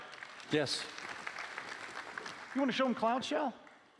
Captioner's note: applause